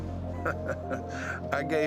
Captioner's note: Mark laughs